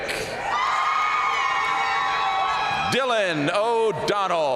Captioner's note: audience cheering and applauding